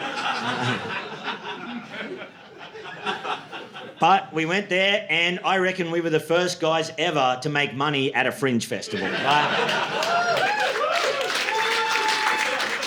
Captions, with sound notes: (audience laughing) But we went there and I reckon we were the first guys ever to make money at a Fringe Festival. (audience laughing) (audience cheering)